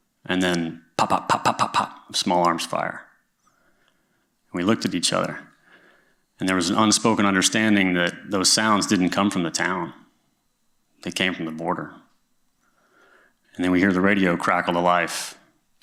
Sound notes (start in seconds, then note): none